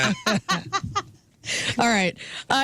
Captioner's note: laughing